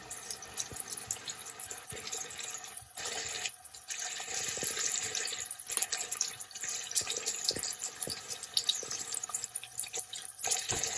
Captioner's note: oil bubbling